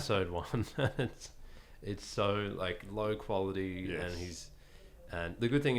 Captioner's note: laughing